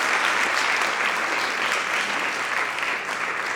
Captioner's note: audience applauds